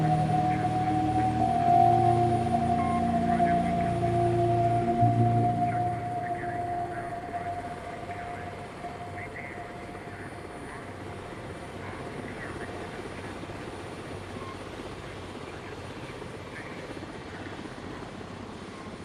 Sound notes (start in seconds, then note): 0.0 gentle distorted music continuing; 4.2 helicopter rustling; 4.2 radio static continuing